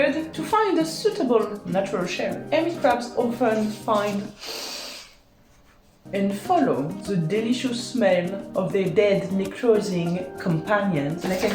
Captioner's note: sniff loudly